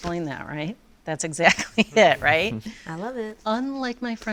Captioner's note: laughs